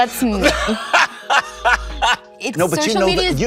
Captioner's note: Colman laughs